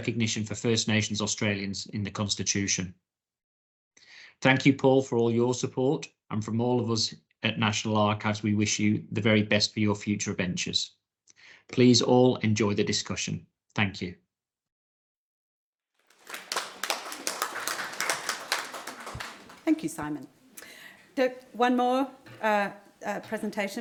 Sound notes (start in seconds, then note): 16.1 audience clapping